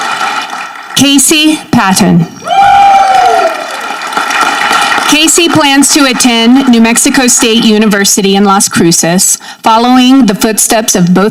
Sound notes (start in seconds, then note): 2.4 audience cheering